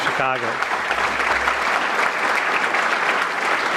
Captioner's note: audience clapping